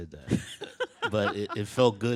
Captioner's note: bursts out laughing